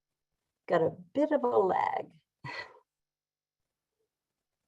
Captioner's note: chuckles